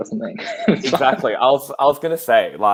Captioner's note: laughing